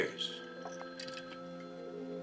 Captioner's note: phone ringing